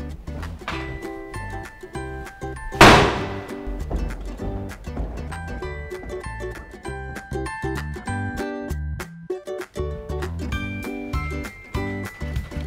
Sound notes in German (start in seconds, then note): 2.8 klatscht laut mit der Mappe